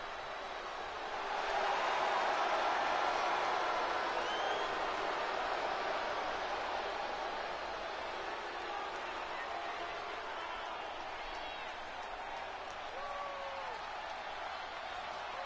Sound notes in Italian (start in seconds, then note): 11.2 Applauso